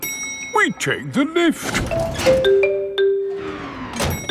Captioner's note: elevator dings